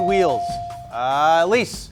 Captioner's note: buzzer chimes